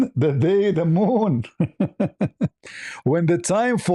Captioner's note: ketawa